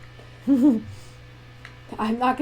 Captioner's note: laughter